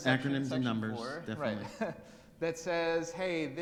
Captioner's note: chuckles